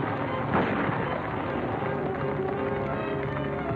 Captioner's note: weapon fires; horses galloping